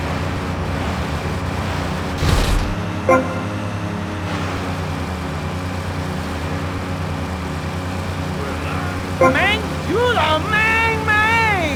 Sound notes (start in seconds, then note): 3.0 beeping; 4.9 beeping